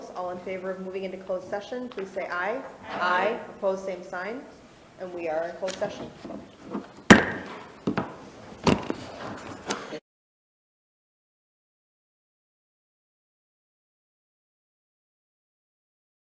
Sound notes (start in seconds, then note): 7.4 gavel bangs